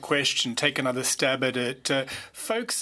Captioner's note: speaking French